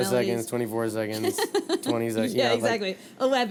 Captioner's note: laughing